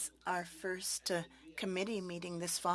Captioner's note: speaking French